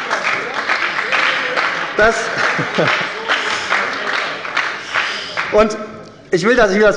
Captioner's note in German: Beifall bei der SPD - Zurufe von der CDU